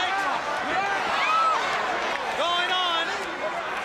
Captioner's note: crowd chatter